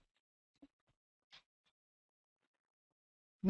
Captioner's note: pause